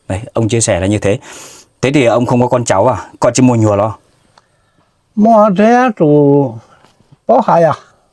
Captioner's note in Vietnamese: khịt mũi